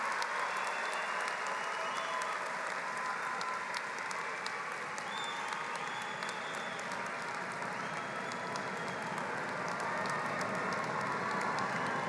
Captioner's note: applause